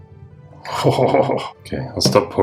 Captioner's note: dark laugh